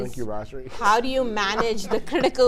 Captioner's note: laughs